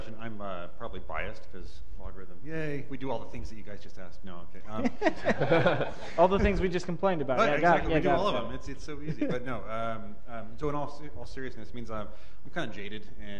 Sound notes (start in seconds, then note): 4.7 laughter